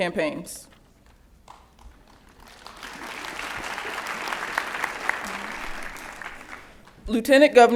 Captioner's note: applause